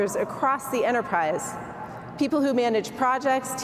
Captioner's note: none